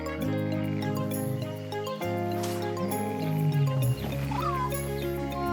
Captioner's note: distant groaning; chirp